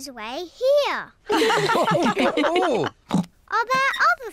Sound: all laugh

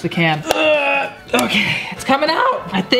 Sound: grunting

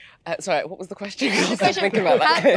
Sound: laughs

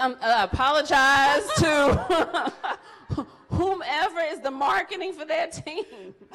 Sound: laughs

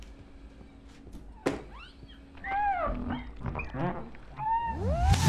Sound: window squeaking

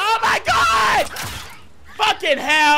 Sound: crossbow firing

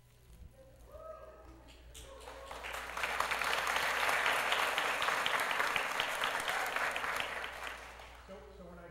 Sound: applause

